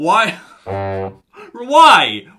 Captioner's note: foghorn blares